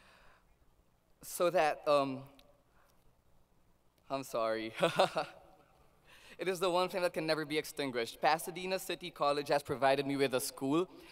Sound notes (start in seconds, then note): 2.8 laughs